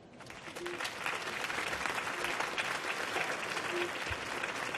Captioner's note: audience clapping